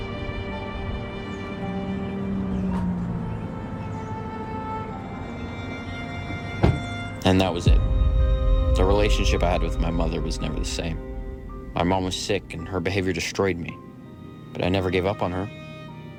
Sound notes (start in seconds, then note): 0.2 melancholic music continues; 6.3 door thuds